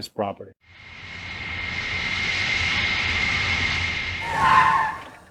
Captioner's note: plane engine revving